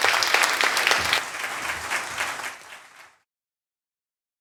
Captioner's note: audience applauds